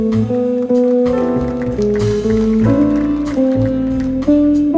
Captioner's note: audience applauding; jazz music continues